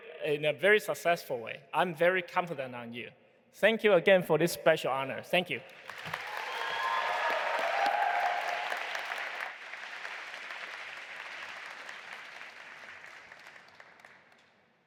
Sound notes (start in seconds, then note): 5.7 audience applauding and cheering